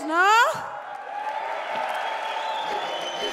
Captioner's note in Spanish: Aplausos